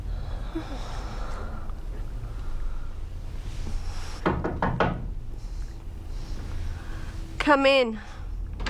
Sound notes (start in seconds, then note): 4.2 knocking